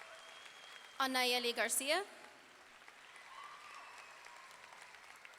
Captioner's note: audience cheering; audience cheering